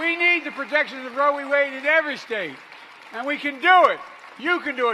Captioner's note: applause